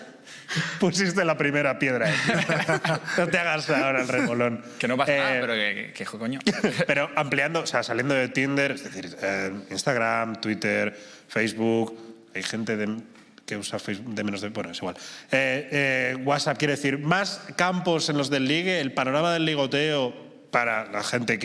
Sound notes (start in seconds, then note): 0.3 laughter